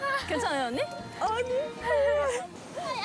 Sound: crying

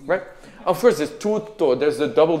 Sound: singing in a foreign language; speaking in a foreign language

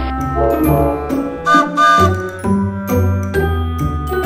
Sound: trains whistle

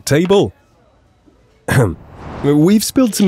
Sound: clearing throat awkwardly

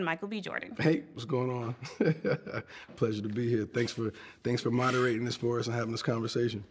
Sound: laughs

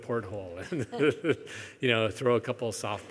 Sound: laughs

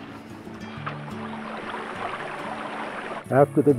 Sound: stream flowing

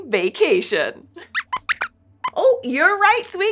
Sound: squeaks squeaks

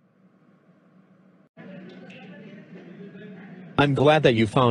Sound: chatting, glasses clinking

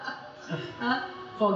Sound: laughter

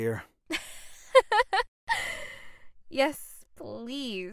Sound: laughs

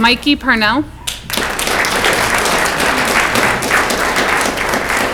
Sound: audience clapping

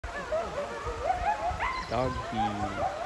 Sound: wild Dog Noises

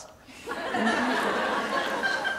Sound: laughter

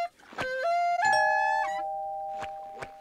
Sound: doorbell chimes

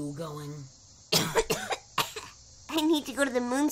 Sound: cough CouGh cOUgH

